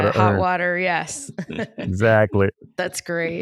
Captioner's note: laughs